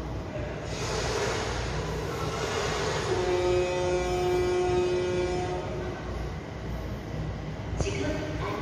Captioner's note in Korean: 뱃고동 소리